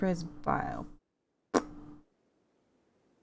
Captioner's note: annoyed pft sound